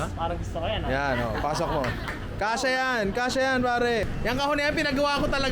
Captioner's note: laughter